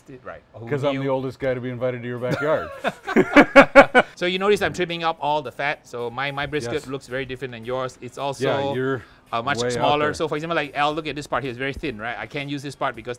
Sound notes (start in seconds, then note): 2.2 both laugh